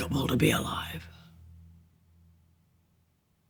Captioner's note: music stops